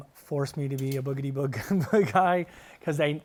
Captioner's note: laughs